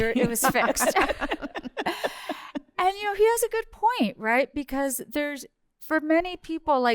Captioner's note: laughter